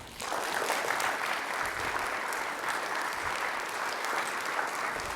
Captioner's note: audience applauding